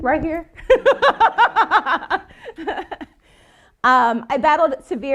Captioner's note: laughing